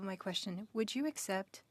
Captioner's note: speaking French